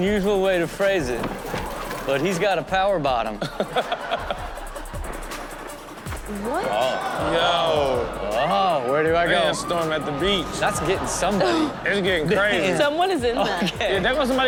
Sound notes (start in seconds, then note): 3.3 audience laughs; 6.2 audience groans